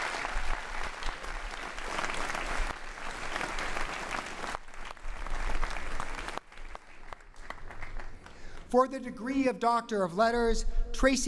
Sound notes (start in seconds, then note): 5.9 applause